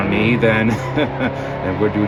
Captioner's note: laughs